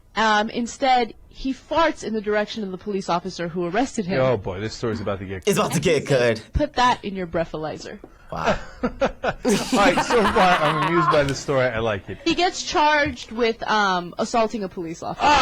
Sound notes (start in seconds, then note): 9.4 both laugh